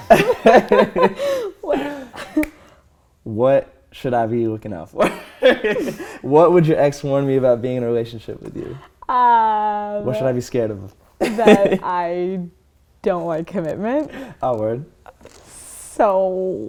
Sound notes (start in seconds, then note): 0.0 laughter; 5.0 laughter